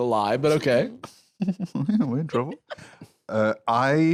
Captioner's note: giggles